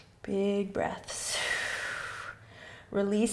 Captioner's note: exhaling